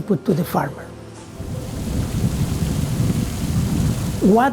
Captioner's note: water spraying, wind blowing